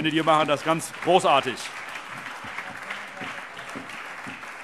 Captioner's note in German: Allgemeiner Beifall